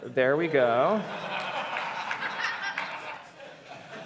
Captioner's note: laughter